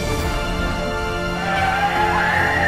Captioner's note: monster roar; skrieks of terror; screams